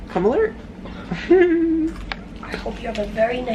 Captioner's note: giggles